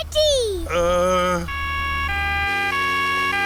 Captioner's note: siren wailing